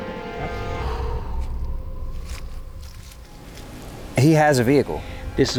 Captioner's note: exhales deeply